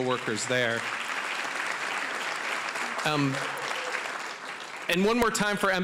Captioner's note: applause